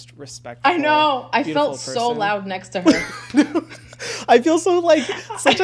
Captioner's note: laughs